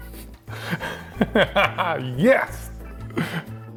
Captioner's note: laughs; upbeat music